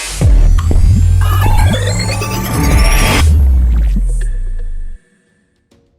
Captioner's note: electronic tone whirring